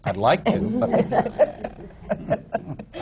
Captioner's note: laughter